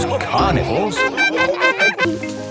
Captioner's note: laughing